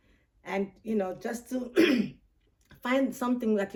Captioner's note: clears throat